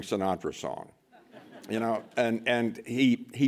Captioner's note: laughter